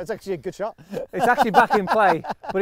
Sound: laughing

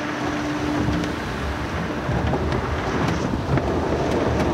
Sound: car wash rumbling

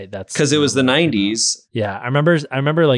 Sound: voice muffled

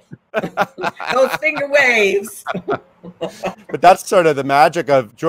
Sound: chuckling

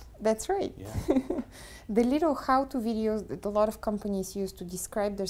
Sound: laugh

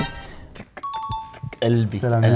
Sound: vocalizing heart beats

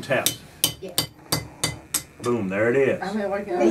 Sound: tapping sound

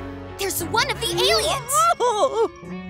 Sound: groaning

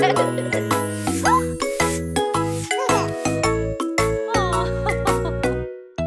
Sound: broom scratching; baby exclaims; mom laughing

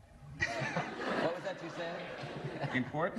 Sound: laughter

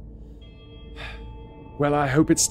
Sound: sigh

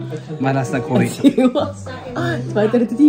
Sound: laugh

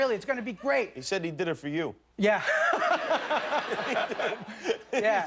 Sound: laughter

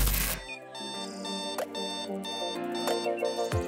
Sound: alarm clock rings; birds chirping

